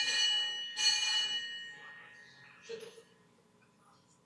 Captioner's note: bell rings